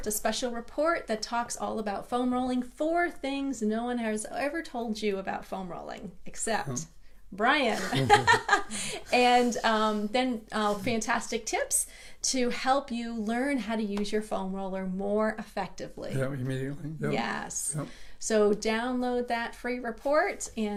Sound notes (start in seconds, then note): 7.8 laughs